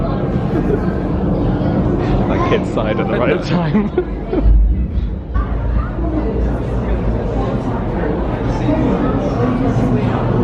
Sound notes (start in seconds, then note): 0.0 singsalong; 0.4 laughs; 3.4 laughs